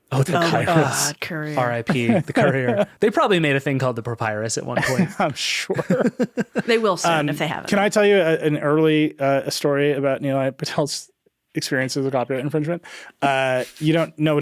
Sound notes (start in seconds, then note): 5.5 chuckles; 5.6 chuckling